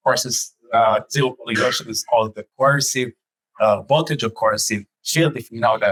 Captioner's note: audience member coughs